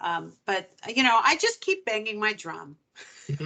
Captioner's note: laughing